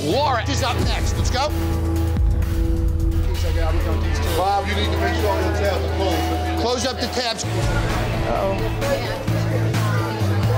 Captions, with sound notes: Laura is up next, let's go. (guests chattering) Close up the tabs.